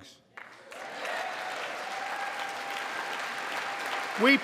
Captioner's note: applause